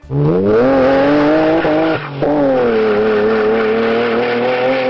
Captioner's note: car exhaust roaring